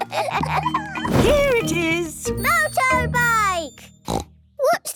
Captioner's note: snort